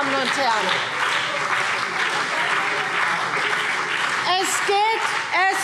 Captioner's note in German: Beifall BÜNDNIS 90/DIE GRÜNEN und vereinzelt CDU